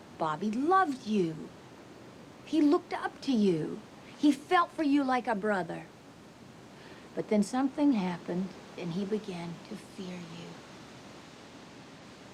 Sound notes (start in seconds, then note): none